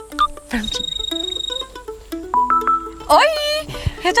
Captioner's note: mobile phone ringing